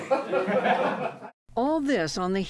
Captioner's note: laughter